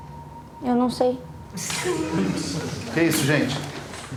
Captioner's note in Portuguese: Risos